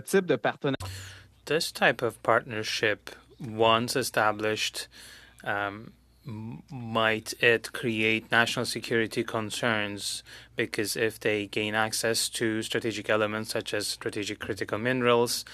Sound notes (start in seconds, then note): 5.6 speaking French